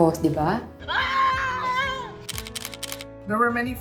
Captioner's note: screams with excitement